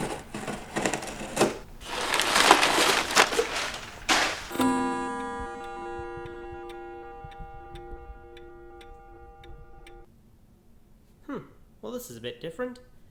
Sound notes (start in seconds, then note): 0.0 scissors on cardboard; 2.0 paper Sounds; 4.5 bong!!; 5.9 tick,Tock